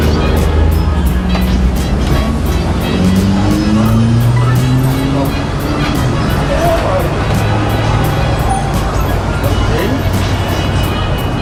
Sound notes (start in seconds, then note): 0.1 engine revs; 1.3 keys jingling